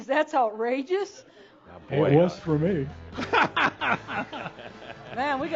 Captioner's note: laughs loudly and fanfare music breaks in